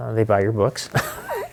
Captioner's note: chuckling